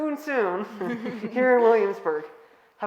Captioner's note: all laughing